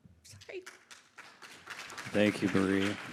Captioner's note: crowd applauding